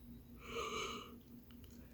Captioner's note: yawn